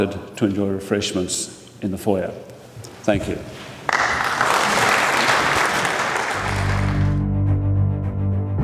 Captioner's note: applause